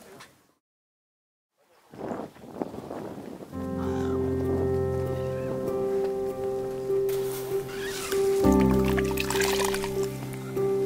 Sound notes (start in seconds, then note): 2.2 wind blows; 3.5 soft piano music